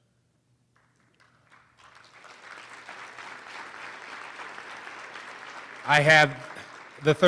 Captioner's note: applause